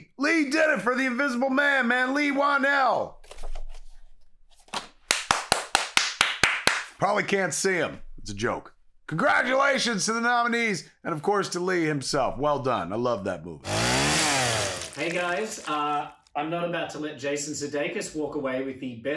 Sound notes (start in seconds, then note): 5.0 clapping; 13.6 chainsaw sound